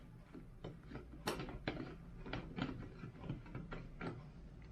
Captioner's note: plastic clatters